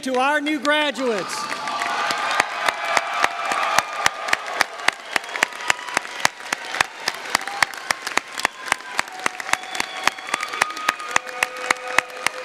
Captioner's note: applause